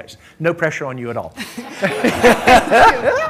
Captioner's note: laughter